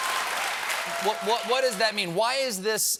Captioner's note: cheers and applause